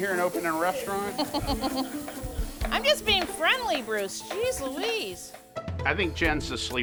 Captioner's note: giggles